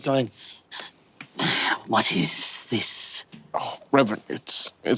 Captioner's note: grumbles